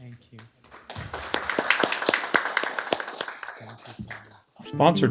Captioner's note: applause